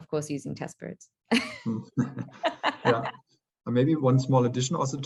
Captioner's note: laughing